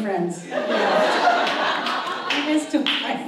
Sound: audience laughs

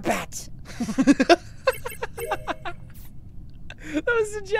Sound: laughter

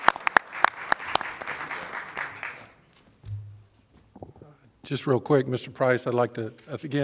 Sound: applause

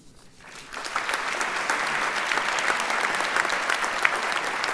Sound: audience applauds

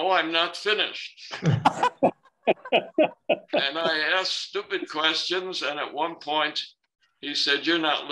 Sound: laughter

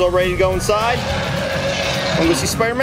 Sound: dinosaur roars

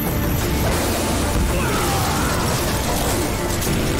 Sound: groaning

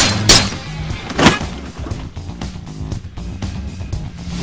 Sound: glass crashing; guns firing; car thudding; engine revving

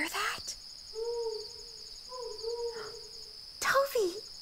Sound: owl hooting

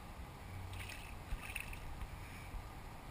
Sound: splash!

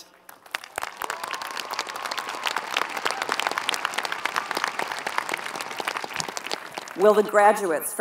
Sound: applause

